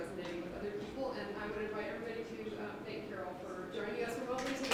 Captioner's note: applause